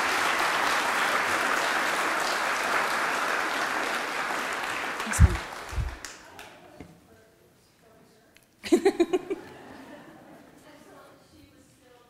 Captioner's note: applause